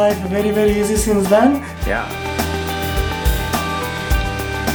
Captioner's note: grinding